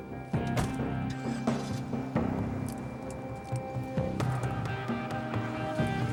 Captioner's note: engine revs; car door slams